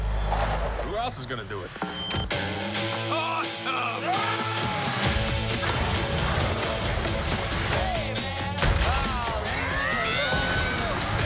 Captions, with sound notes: who else is gonna do it? awesome! (screams) (baby screams)